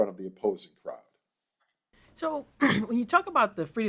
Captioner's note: cough